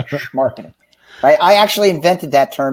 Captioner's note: laughing